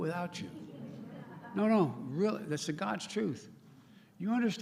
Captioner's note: laughter